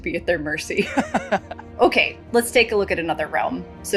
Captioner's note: laughing